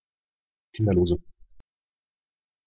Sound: fast Pronunciation

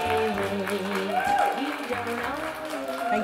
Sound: applause

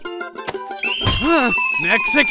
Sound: bird screech

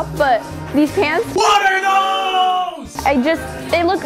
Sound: disembodied voice

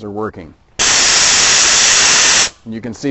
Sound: releasing air from the tank

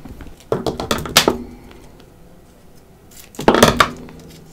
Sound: scissors banging on desk

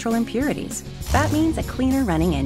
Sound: engine revving

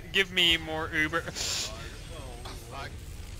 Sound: strained panic noise

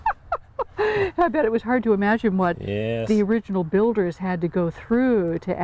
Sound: laughing

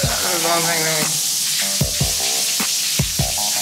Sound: Jordan mumbling

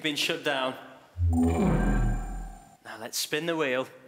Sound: whooshing

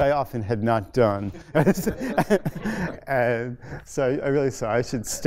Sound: laughter

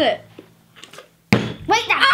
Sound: bottle landing; screaming

